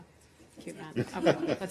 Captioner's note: laughter